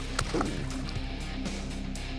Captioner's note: splash